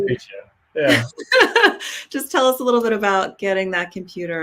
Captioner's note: laughs